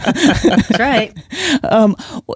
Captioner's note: laughs